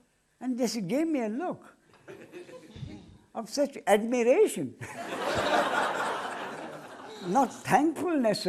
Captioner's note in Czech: smích